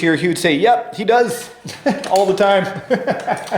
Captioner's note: laughs